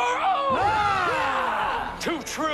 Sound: yelling

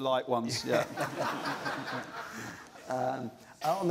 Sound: laughter

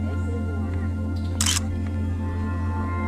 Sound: photo click

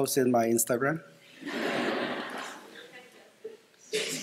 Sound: laughter

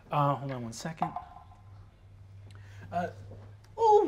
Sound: die taps table

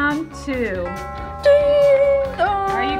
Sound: clock chimes

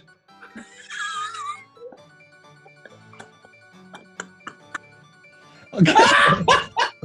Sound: sniggering; laughter

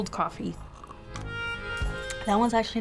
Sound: sips

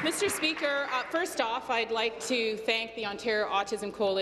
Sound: applause

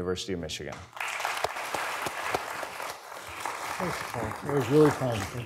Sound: audience applauding

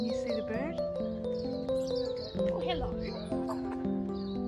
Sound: birdsong

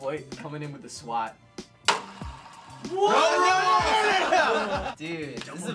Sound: laughter

